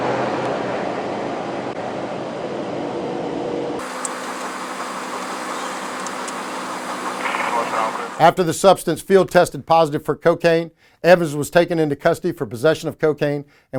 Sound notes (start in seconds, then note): 0.1 vehicles roaring; 3.8 machinery noises